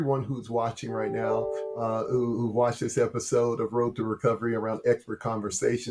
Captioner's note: laughs